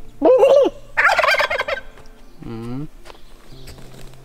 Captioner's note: cackles; turkey cackles